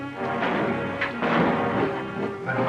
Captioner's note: gunshots